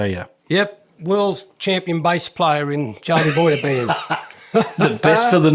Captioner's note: laughing